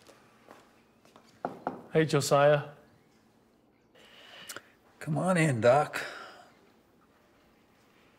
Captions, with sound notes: (knocking at door) - Hey, Josiah. - Come on in, Doc.